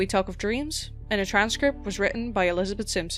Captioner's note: none